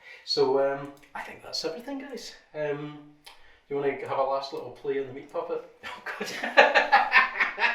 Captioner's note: laughter